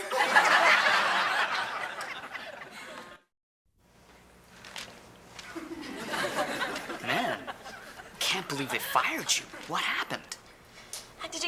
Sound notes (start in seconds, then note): 0.0 audience laughing; 5.4 audience laughing